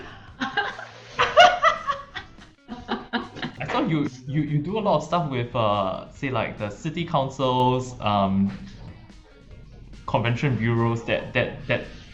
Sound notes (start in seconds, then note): 0.0 laughing